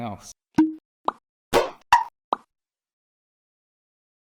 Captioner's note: logo popping